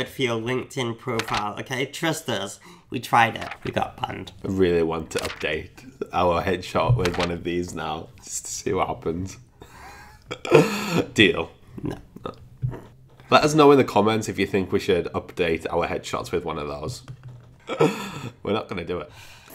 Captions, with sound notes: for your LinkedIn profile, okay? Trust us, we tried it, we got banned. - Really want to update our headshot with one of these now just to see what happens. (lightly laughing) Deal. - No. - Let us know in the comments if you think we should update our headshots with one of those, we're not gonna do it.